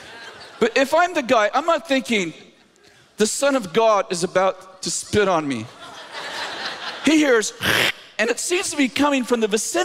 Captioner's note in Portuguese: cuspir